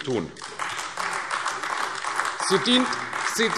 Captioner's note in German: Beifall AfD